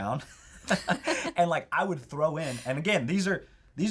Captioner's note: laughs